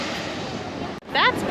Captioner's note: plane landing sounds